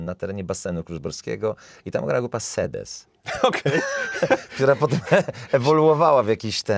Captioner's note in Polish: śmiech